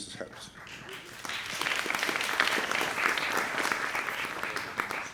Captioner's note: applause